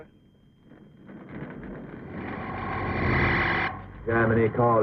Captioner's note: eerie sounds